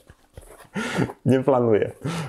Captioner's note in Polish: śmiech